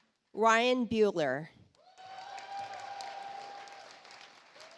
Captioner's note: audience applauds